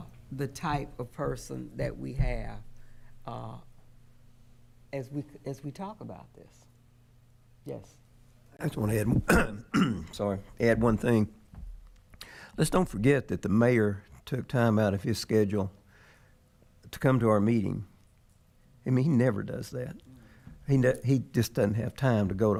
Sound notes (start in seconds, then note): 9.1 coughs